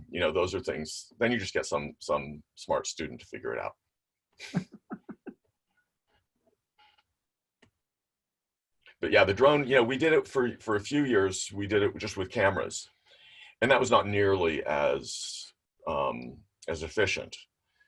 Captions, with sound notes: Those are things- then you just get some smart student to figure it out (laughs). But yeah, the drone, we did it for a few years. We did it just with cameras. And that was not nearly as efficient,